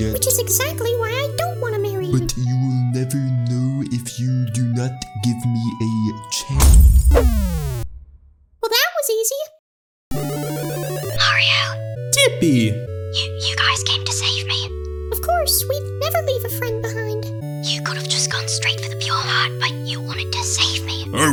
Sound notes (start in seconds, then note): 6.5 punch